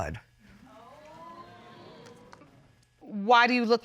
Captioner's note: audience exclaiming